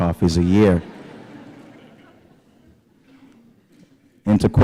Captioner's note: laughter